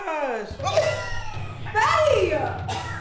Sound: coughs

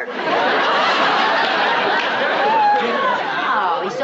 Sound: laughter

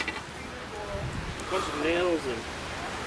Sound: mumbles

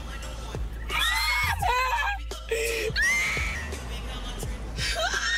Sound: Crystal screaming

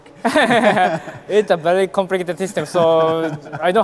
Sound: chuckles

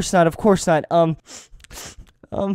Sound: sniffle sniffle

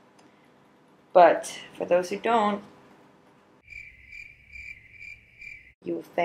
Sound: crickets

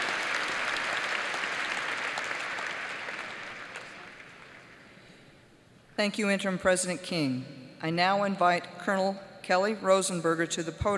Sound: applause

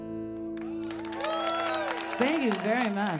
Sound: audience clapping

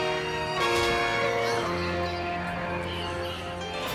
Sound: straining; piano playing

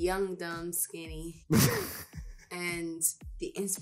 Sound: laughs

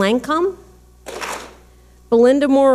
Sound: clap smack

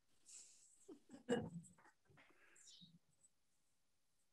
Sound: laughs

